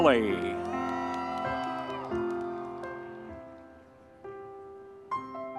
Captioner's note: audience members cheering